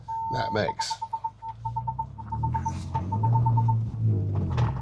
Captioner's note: truck beeping; engine beeping